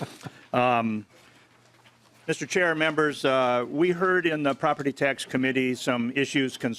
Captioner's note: laughing